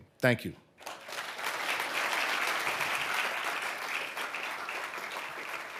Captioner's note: audience applauding